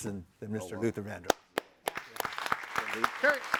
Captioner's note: all applauding